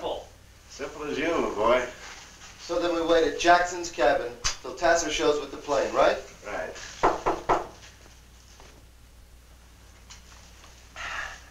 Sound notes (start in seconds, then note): 7.0 knocking